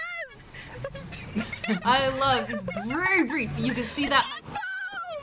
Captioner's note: laughs